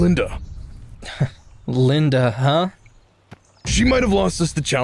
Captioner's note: scoffs